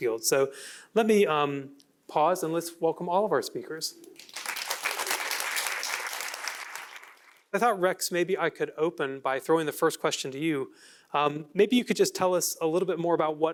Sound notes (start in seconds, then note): 4.1 applause